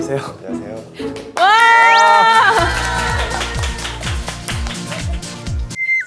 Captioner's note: stutter